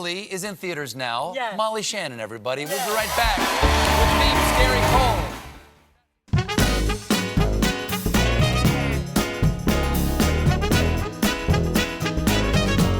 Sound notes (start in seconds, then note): 5.7 band playing; 5.7 cheers and applause